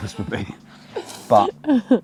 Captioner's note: laughs